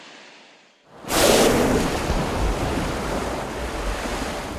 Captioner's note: spouting